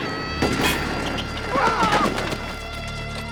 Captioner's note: shots firing; men groaning